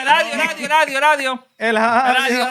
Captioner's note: non-english Speech